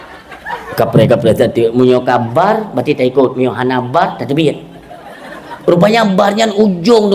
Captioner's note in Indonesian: tertawa